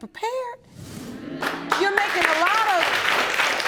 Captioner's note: audience agreeing